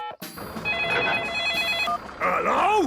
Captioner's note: phone ringing; phone beeping